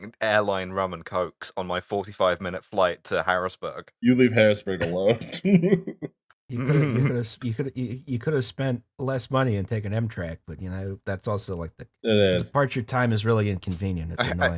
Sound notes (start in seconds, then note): 4.8 laughter